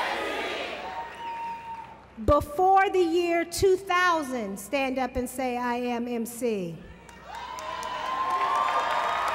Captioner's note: applause